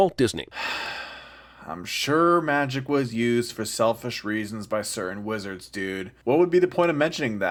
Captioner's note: sigh